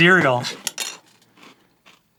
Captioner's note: spoon drop